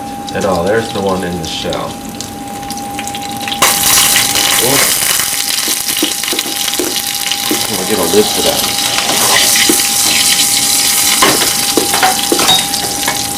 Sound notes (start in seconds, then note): 2.8 sizzle sounds